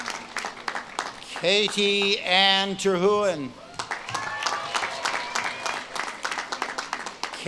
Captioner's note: audience claps and cheers